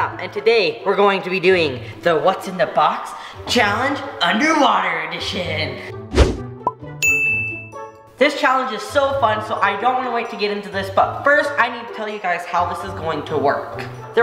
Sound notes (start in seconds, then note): 5.8 playful music; 7.0 bell dings